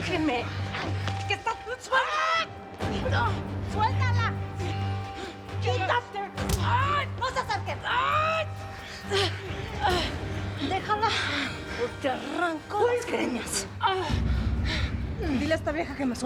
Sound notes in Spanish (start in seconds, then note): 3.7 Gritos; 7.1 Quejido; 9.1 Gritos